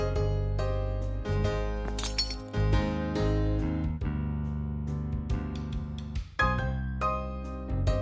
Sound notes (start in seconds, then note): 1.8 glass shattering; 5.1 bright music